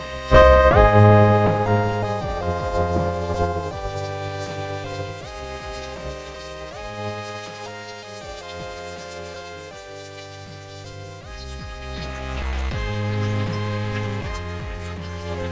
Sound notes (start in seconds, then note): 0.4 thunderclap